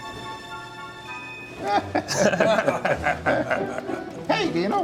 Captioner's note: curious music; all laughing